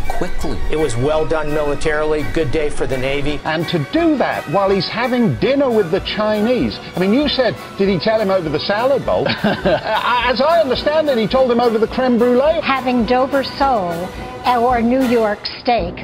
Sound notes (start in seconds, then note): 9.2 laughing